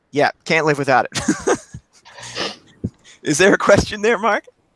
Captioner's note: laughs